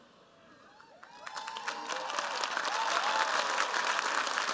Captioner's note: cheers, applause